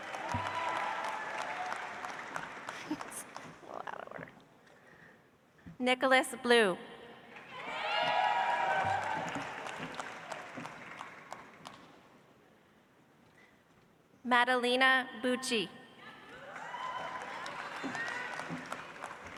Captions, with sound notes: (audience applauds) Nicholas Bleau. (audience applauds) Madelina Bucci. (audience applauds)